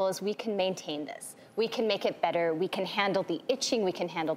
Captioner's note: none